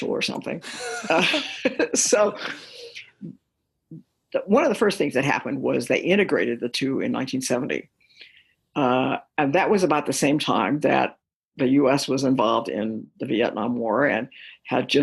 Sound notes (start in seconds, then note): 0.6 laughter